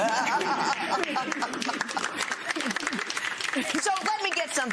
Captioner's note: laughter